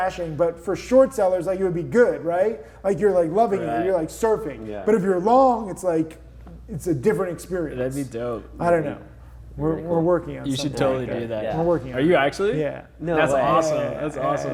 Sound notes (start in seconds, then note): none